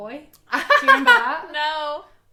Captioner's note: laughs